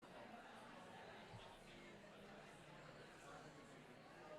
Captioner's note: audience chatter